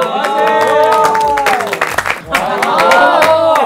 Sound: applause

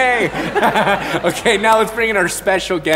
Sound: laughs

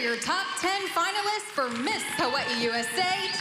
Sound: cheering

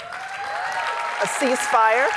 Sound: audience applauding

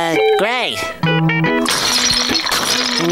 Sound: shattering

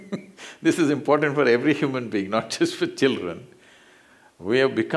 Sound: laughs; laughs

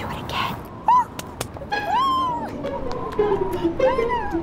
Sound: claps

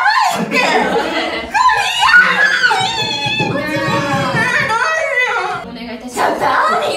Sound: scream

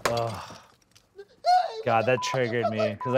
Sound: sighs; pot shatters

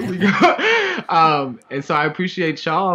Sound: laughing

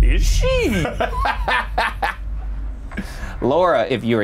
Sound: laughing

